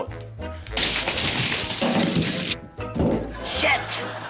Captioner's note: thud!; onions rustle